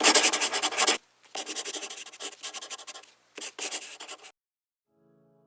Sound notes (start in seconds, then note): 0.0 pencil scribbling